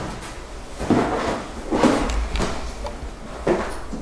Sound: box clunking

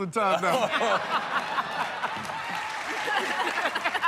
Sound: laughter

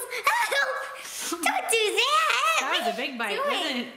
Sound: screams

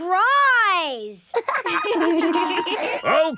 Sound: laughter

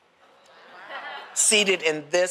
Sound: laughter

